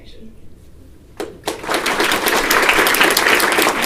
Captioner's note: applause